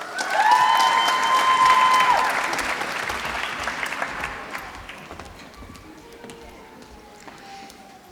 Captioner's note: applause